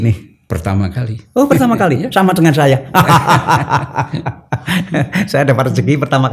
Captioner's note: laughs